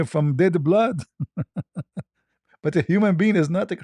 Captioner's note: ketawa